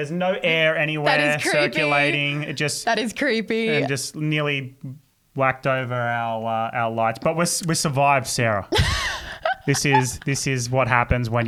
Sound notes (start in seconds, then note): 8.7 laughing